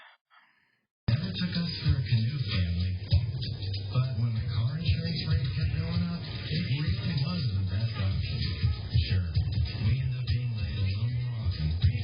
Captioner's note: TV plays in background